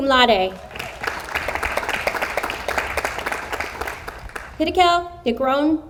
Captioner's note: audience applauds